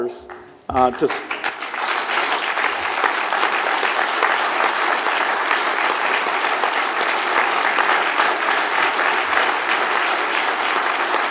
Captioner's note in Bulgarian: аплодисменти